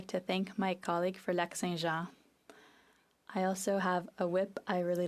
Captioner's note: speaking French